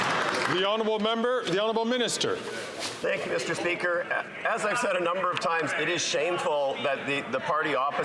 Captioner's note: applause